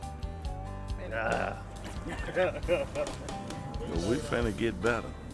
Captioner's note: man laughing